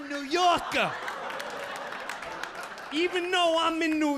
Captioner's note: audience laughing